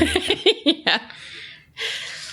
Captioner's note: laughter